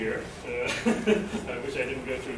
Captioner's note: laughter